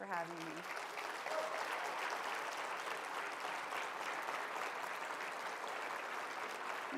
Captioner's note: applause